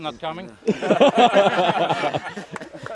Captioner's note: laughter